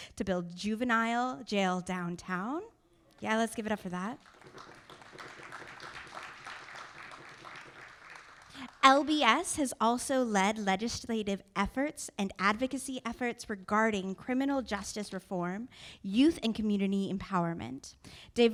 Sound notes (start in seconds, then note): 4.1 audience applauding